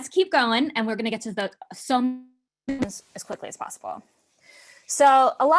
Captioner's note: murmurs